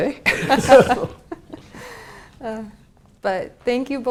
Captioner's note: laugh